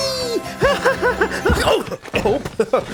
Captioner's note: laughter